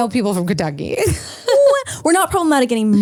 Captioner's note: laughs